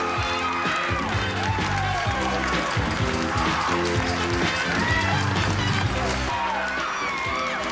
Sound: audience applauding

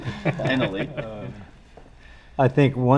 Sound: all laughing

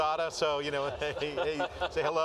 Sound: laughter

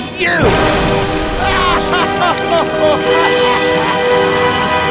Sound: laughing

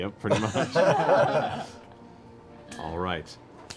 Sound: laughter

